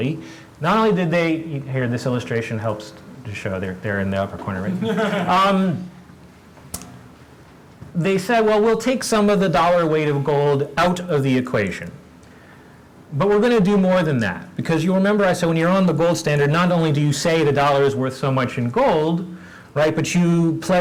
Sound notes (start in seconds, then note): 4.6 laugh